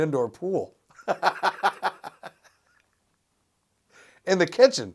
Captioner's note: laughs